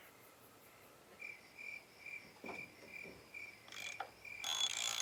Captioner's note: crickets chirping; metal cranking